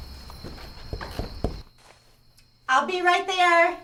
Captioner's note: door knocking